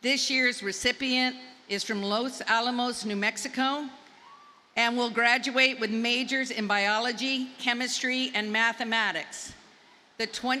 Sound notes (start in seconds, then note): none